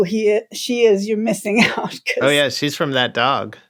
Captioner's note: laughter